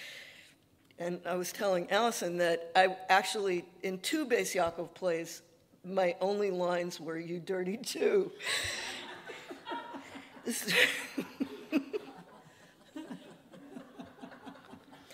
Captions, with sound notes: And I was telling Alison that I actually, in two Bais Yaakov plays, my only lines were "You dirty Jew." (everyone laughing)